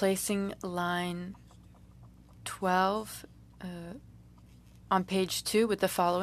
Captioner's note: speaking french